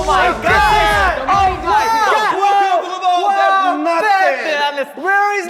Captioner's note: murmurs erupt over the mention of money